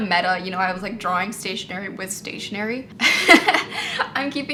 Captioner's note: laughs